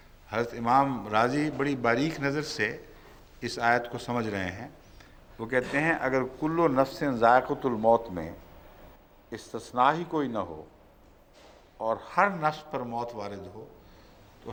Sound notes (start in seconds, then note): 10.6 Arabic